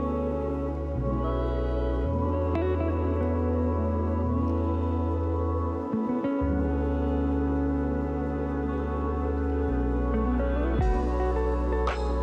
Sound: air whooshing

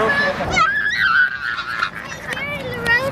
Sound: screaming

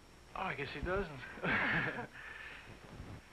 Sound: both laughing

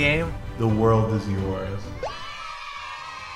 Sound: scary deep voice

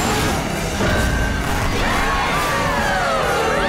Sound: cheers, applause

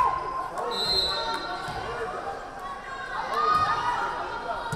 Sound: whistle blaring

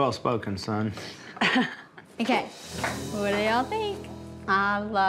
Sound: laughs

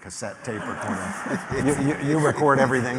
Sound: laughter

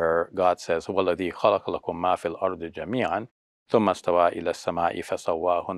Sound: speaks foreign language

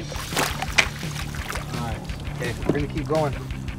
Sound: fish splashing

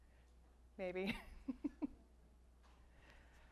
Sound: laughs

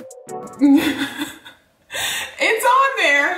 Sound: laughing

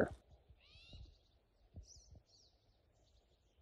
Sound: birds chirping

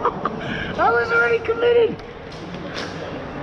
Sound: laughing

